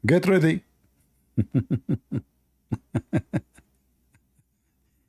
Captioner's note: Ketawa